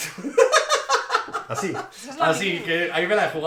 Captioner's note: laughs